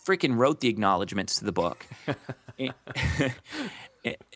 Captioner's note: laughs